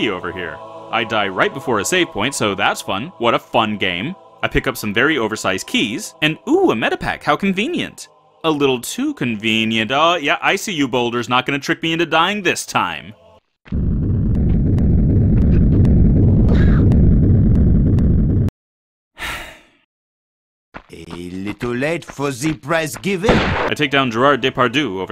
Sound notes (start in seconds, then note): 19.2 sigh